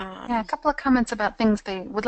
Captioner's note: voiceover